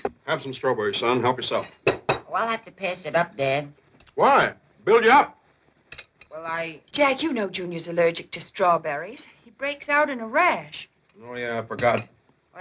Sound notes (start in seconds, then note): none